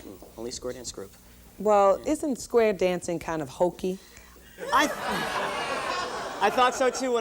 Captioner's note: laughing